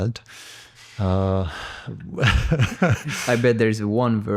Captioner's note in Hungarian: nevetés